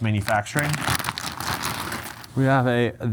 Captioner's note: bag crackles